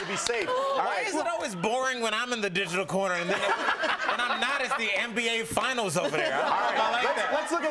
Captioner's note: cheers and applause